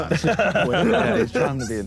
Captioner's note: Sidemen laugh